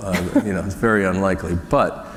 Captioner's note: laughter